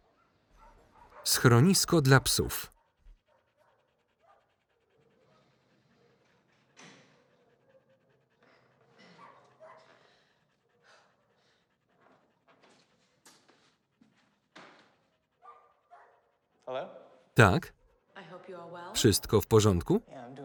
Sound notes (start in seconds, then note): 0.6 barking; 3.1 dog panting